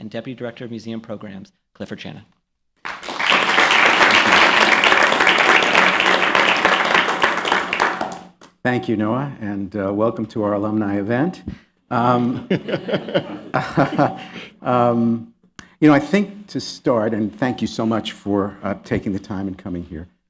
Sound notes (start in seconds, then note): 2.8 applause; 12.1 laughter